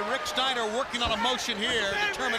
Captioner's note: crowd cheering; crowd chatter